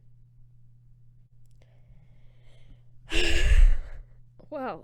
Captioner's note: long exhale